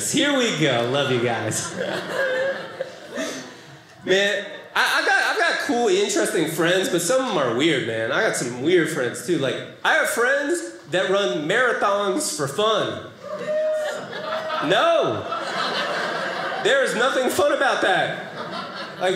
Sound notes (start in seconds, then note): 13.2 audience cheering